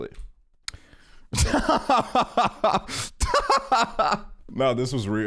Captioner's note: laughing